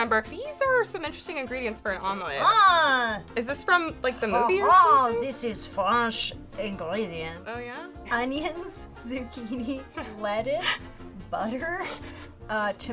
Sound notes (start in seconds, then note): 4.4 exclaims